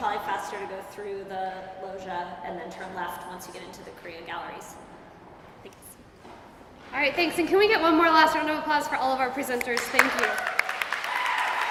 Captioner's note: applause